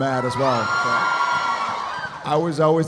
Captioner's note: audience cheering